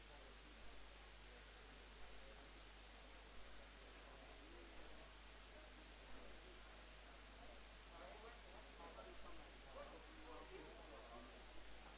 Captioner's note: indistinct conversation